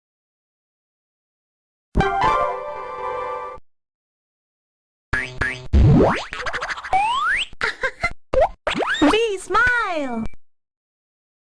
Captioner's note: Spanish